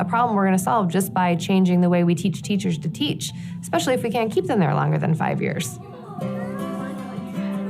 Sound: none

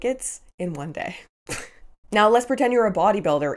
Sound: chuckles

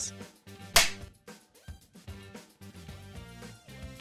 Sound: film clapper sound, music continues

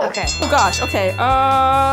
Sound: bell rings

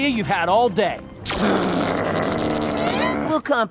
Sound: growling

